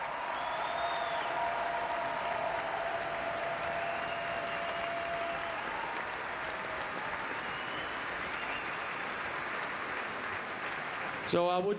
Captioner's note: cheering and Applause